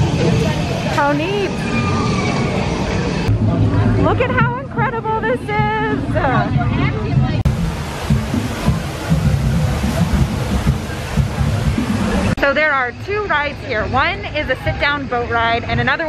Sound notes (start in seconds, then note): 6.9 sound of the waterfall and drum music